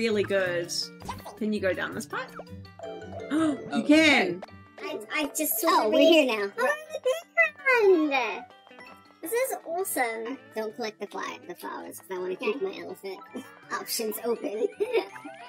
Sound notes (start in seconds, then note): 4.2 gasps; 5.5 cartoonish voices